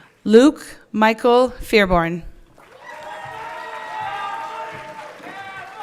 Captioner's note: everyone cheering